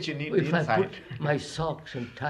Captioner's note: laughs